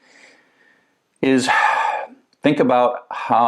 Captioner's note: sighs